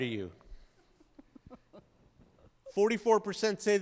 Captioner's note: chuckles